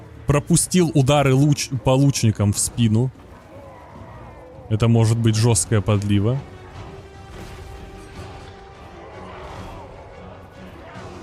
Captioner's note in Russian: стон